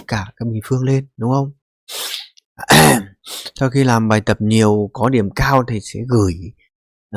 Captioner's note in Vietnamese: khịt mũi